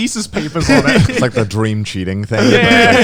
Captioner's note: laughing